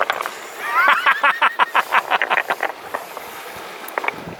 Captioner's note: malevolent laughter